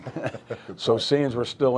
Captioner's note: laughing